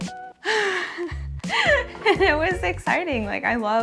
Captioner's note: gasps